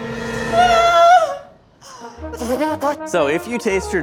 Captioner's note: ominous music; spitting; playful classical music